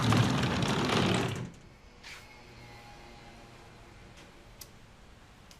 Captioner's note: sonido tráfico